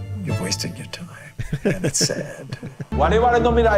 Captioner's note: laughs